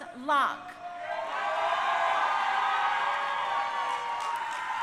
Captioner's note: crowd cheering